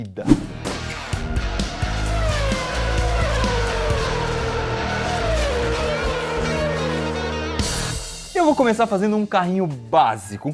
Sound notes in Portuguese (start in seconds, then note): 2.1 barulho de carros de Fórmula 1